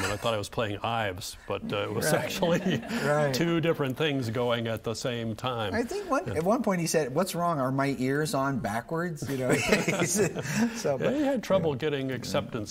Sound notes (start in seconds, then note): 2.1 audience laughing; 9.4 both laughing